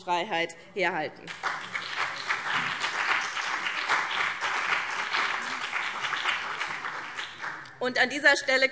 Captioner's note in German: Beifall BÜNDNIS 90/DIE GRÜNEN und vereinzelt CDU